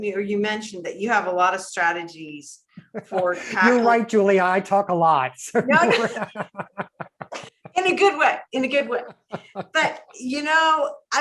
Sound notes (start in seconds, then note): 5.5 both laugh